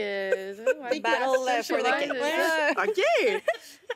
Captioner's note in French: rires